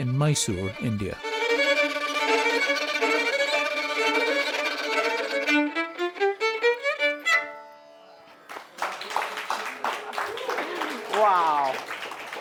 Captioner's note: applause